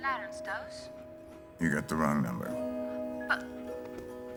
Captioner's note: in English; phone beeps